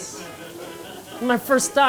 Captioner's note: laughing